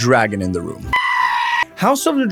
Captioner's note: dragon screams